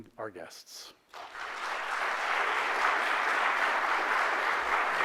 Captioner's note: audience applauds